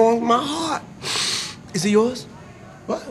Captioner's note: deep breath